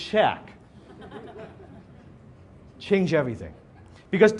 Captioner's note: audience laughs